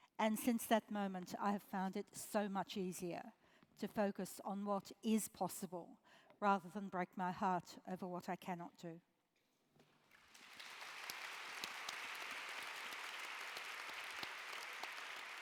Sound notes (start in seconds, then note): 10.0 applause